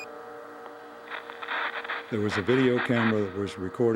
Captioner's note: static buzzes